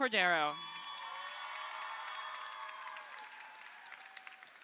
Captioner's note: crowd cheering